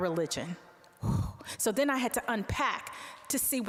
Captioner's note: sighing